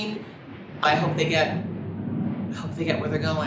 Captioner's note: plane engine roaring